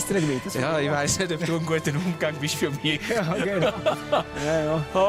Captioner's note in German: Lachend